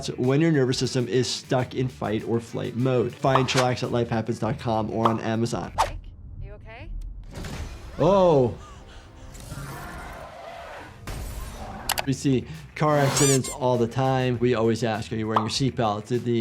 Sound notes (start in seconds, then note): 8.9 tense music; 9.5 car tires screech; 10.7 car crashes